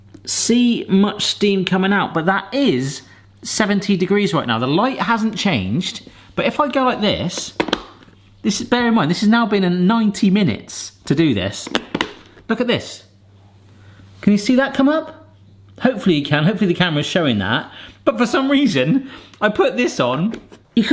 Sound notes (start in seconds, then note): 7.5 plastic snapping; 11.6 plastic snapping